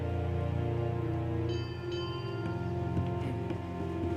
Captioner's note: bell ringing